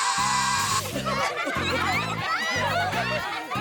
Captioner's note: zap!; laughter